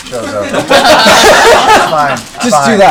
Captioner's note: all laugh